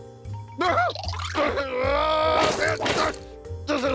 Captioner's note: angry grunting